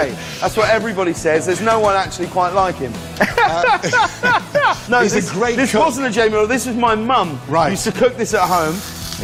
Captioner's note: Ramsey laughs